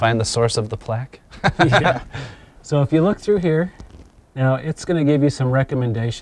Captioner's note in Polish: Śmiech